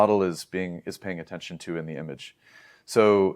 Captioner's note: inhales